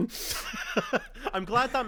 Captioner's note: laughs